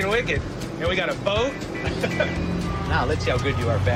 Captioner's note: laughs